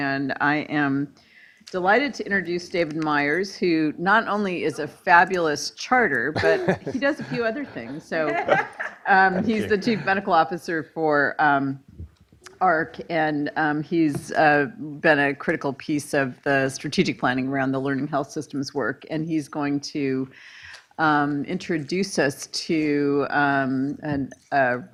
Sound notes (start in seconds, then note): 6.3 laughing